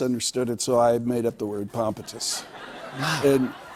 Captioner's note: laughter